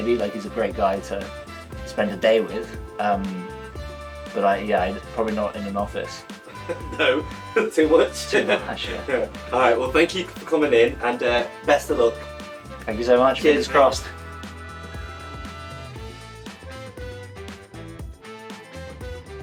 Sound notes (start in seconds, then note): 6.4 laughs; 14.5 upbeat music